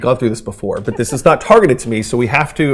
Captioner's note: laughing